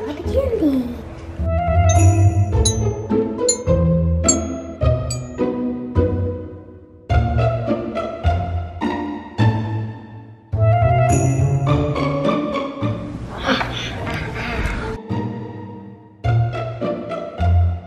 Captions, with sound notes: - Hm, where's all the candy? (footfalls clink) A ha ha.